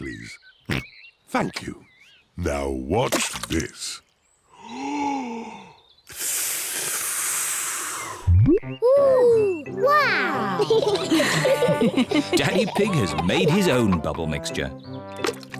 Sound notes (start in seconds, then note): 0.7 oinks; 4.3 takes big breath and blows; 10.4 all laugh